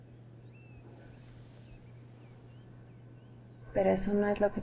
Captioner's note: birds chirping